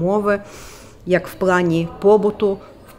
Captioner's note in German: Gespräche im Hintergrund